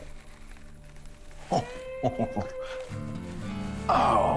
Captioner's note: laughs in wonder